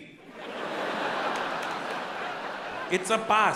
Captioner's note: audience laughs